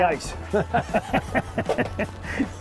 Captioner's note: everyone laughs